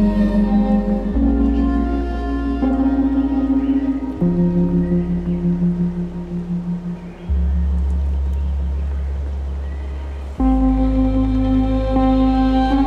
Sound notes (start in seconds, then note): 1.3 rain pattering